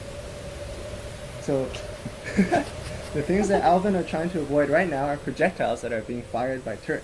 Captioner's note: laugh